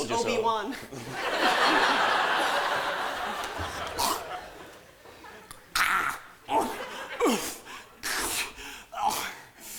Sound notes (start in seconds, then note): 0.9 laughter; 2.9 juliet gagging; 6.5 groaning